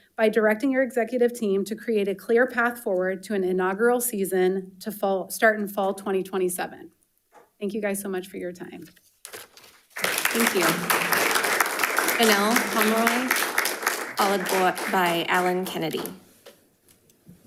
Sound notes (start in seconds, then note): 9.9 audience applauding